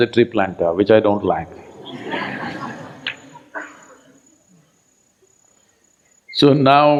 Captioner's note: laughter